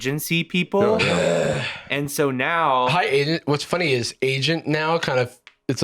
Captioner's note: groans